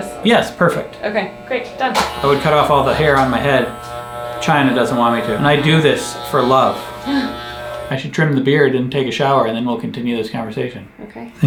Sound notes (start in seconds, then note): 7.1 gasps